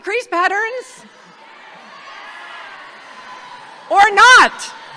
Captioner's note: audience shouting